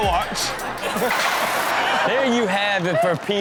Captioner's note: everyone laughs